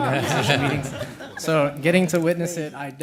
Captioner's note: laughter